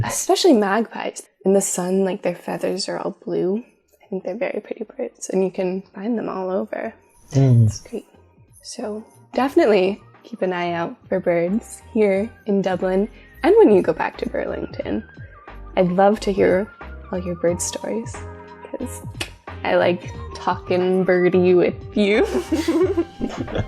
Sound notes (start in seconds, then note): 18.4 click; 22.2 both laugh